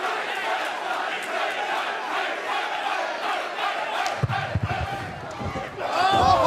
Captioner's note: cheers & applause; fans chanting